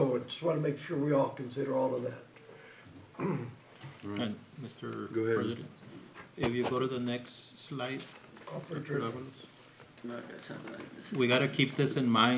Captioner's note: clears throat